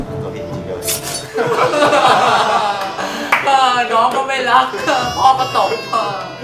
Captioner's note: crying